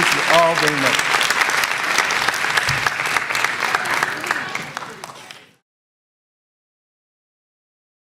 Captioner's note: applause